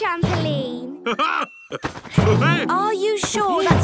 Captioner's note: laughs